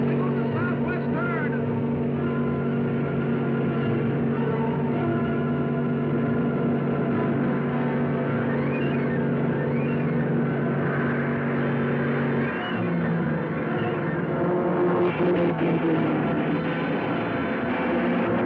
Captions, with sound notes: as they go to the south-west turn. (thrilling music) (cars revving)